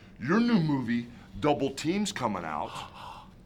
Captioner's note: none